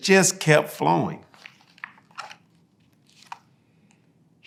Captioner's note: pages rustling